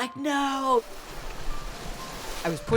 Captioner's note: waves crashing